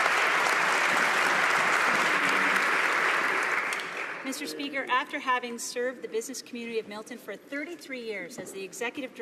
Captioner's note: applause